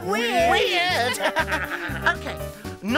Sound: laughs

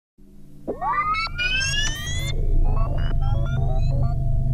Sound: some kind of booting up sound

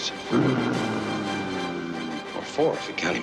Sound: non growls

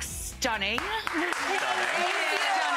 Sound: audience applauding

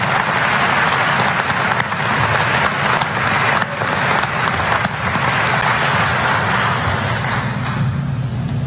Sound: applause

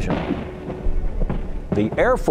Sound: guns firing

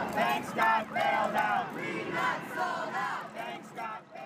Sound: chanting fades out; cheering and clapping

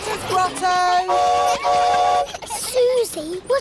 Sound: horn toots

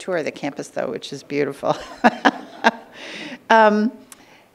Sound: laughing

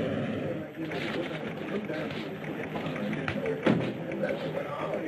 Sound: staff chattering

